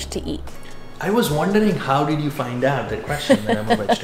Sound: laughs

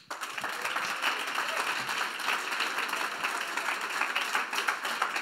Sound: audience applauds

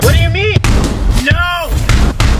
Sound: ball bangs

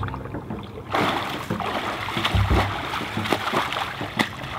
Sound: water splashing

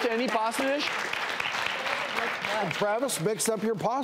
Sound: audience applauds

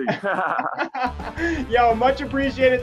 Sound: both laughing

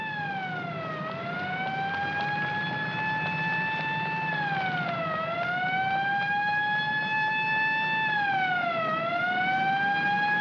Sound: siren wailing; footsteps running; siren wailing

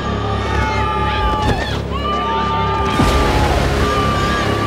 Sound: on-lookers yelling

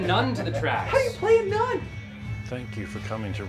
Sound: voiceover

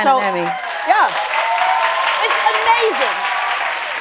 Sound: cheering and applause

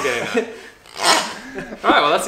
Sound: squeaks

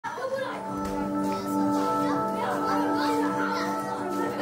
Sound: children chattering

